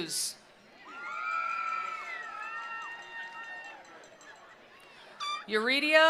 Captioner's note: attendees cheering; attendees applauding